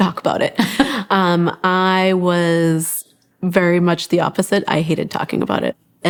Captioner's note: laughs